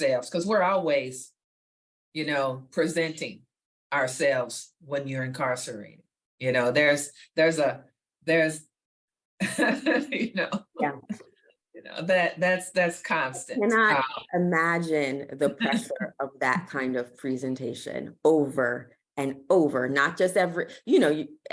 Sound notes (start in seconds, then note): 9.5 laughs